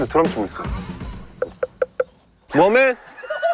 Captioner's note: boldly knocking